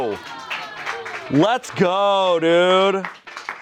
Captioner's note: friends clap